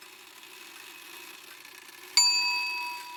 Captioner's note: old clock chime